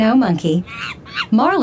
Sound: monkey noises

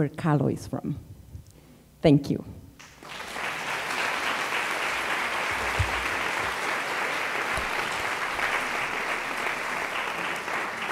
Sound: applause

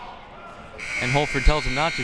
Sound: buzzer ringing

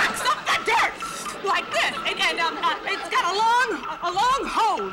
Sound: slurping noise

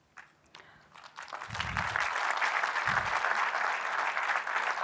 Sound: applause

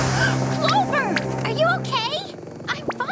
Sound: gasps

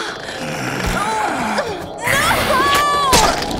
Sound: monster snarling; fangs slurping

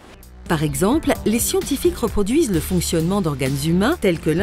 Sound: voice-over

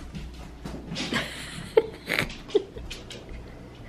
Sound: laughs

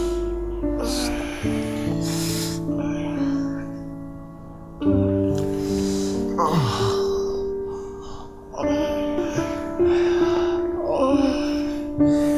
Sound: love making sound

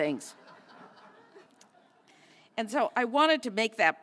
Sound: laugh

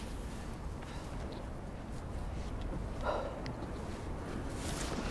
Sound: slow deep breaths

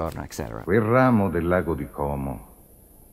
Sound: male voiceover in Italian

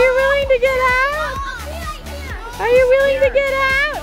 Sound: crowd yell

